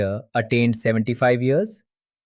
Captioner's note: thoughtful